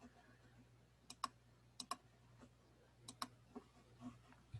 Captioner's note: mouse clacking